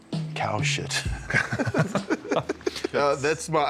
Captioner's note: both laugh